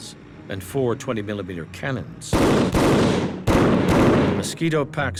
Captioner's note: gunfire